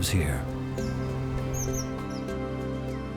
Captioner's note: chirping